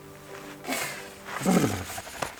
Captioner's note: man shivering